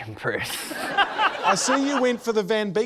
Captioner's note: laughter